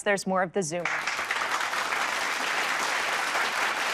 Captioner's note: applause